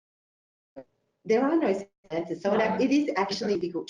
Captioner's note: audio distorts